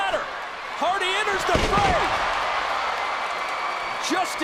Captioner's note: applause; applause